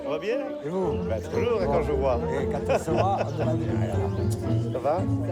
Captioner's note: speaking in foreign language